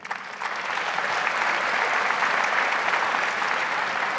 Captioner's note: audience applauds